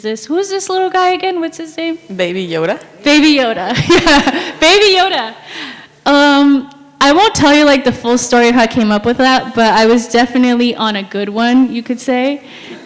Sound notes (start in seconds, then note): 4.2 laughs